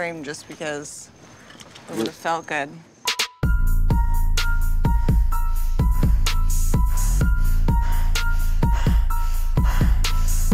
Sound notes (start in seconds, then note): 3.4 intense music; 4.8 breathing heavily